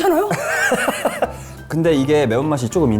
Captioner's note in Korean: 머쓱한 웃음